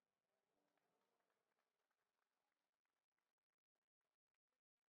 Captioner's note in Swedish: Applåder